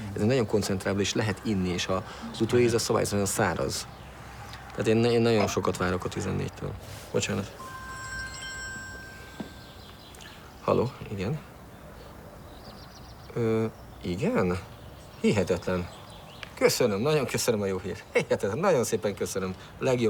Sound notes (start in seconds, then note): 0.1 speaking in foreign language; 7.6 phone ringing; 13.4 speaking in foreign language